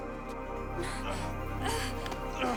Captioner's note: grunting